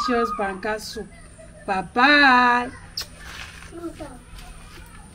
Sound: kisses

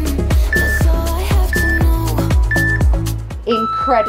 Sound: timer beeping

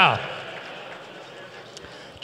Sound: applause

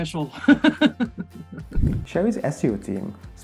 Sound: laughs

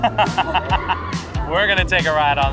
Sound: laughs

